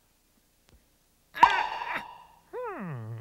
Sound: pop

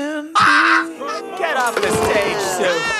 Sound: kids booing

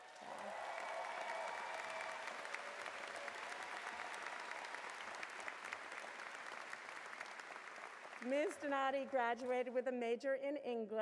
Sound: cheers and Applause

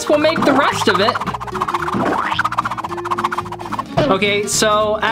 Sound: pen swooshing

